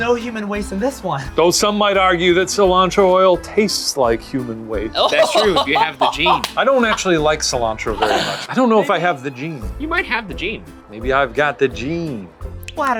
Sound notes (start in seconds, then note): 5.0 laughs